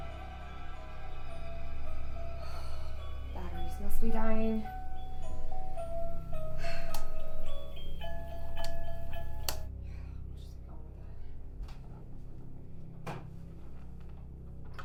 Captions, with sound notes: (sighs) Batteries must be dying. (Claire sighs) Yeah, I'll just go to bed.